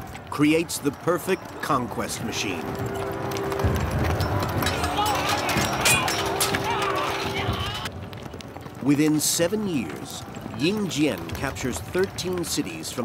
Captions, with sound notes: creates the perfect conquest machine. (weapons clanking) (soldiers yelling) Within seven years, Ying Zheng captures 13 cities